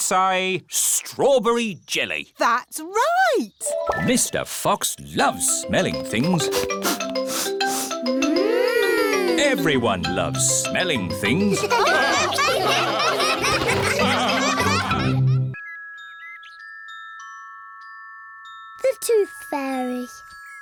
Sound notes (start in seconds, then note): 6.3 all sniffing; 11.3 all laugh